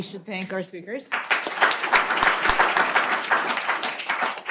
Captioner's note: applause